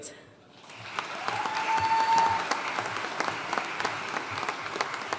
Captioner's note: audience cheering and applauding